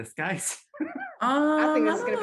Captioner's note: laughing